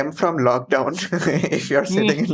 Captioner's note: laughs